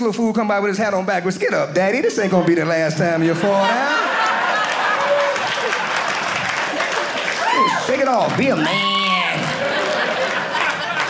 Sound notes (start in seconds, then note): 4.2 audience clapping